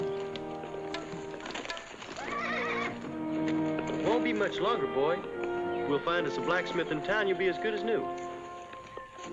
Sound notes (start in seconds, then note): 2.0 horse neighs; 9.1 soft contentious music